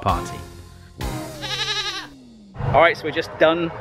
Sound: goat bleating

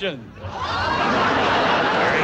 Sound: audience laughs

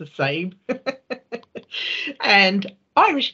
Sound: laughing

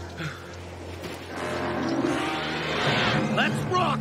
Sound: monster screeching

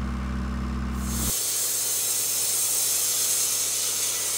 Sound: saw revving

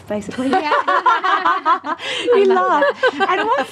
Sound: laughter

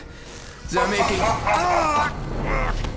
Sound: assassin laughing

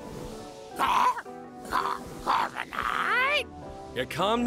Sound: Corviknight chittering

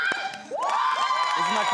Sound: cheering

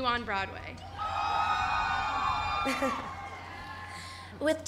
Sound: cheering

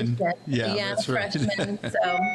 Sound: laughing

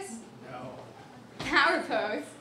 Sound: voiceover

